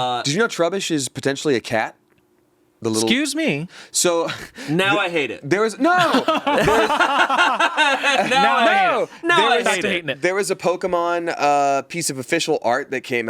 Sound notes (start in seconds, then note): 5.8 everyone laughs